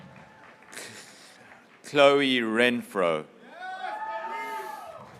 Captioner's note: graduates cheering